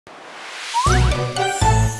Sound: whooshing; bright music

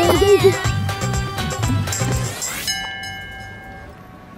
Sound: temple bell sound

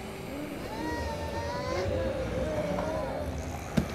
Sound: zombie growls

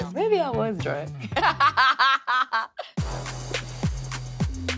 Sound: laughs; upbeat music

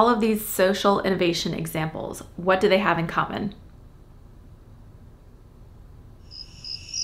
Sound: crickets

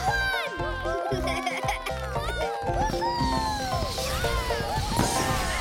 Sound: kids cheering; upbeats playing

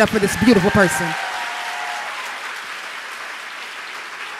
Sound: audience applauds

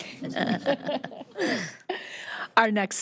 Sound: audience laughing

